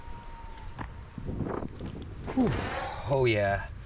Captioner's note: wind rustling; fauna howls